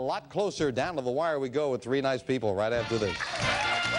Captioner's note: applause; theme music playing